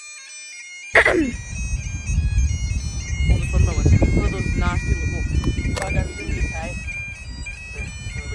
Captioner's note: clears throat